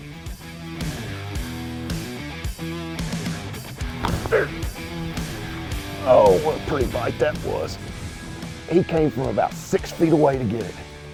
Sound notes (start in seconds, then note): 0.3 upbeat rock music continues; 4.0 grunts